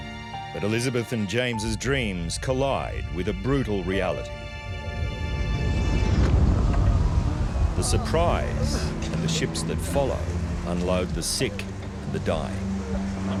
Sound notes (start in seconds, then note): 6.3 men wailing